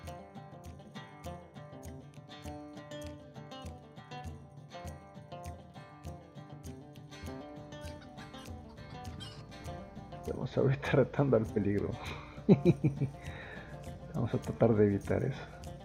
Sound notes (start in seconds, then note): 12.1 laughs